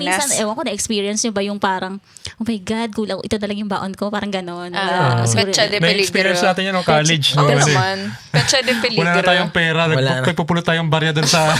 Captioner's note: speaking in foreign language